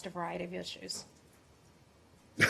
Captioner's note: laughter